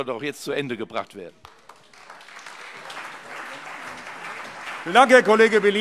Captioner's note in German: Beifall CDU und BÜNDNIS 90/DIE GRÜNEN